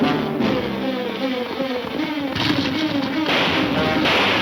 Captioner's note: gunfire pops